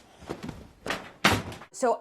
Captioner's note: leg kicking